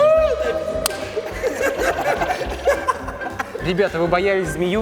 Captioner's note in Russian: смех